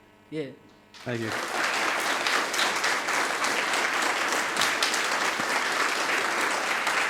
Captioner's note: audience applauding